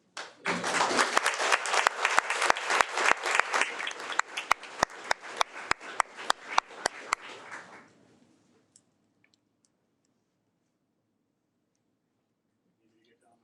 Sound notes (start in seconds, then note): 0.1 audience applauding